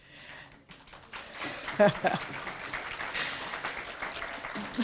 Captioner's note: applause